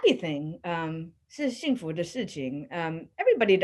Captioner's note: speaking in a foreign language